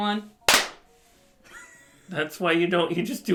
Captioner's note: clap; laughs